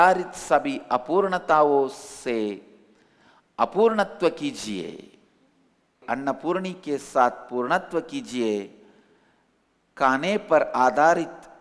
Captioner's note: hindi